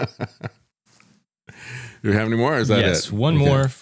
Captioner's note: laughs